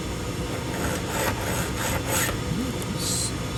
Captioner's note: file scrapes on glass